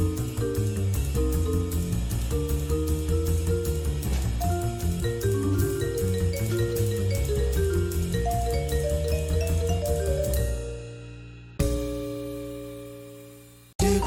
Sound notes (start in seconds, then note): none